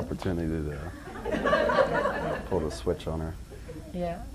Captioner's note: audience laughs